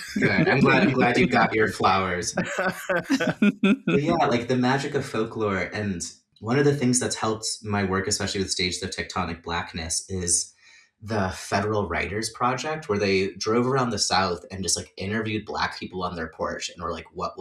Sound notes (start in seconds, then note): 2.1 laughter